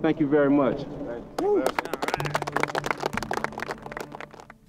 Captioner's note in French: applaudissements